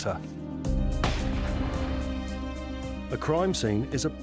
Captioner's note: dramatic music; gunfire bangs